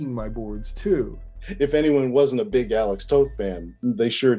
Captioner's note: laughing